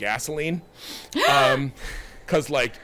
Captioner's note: gasping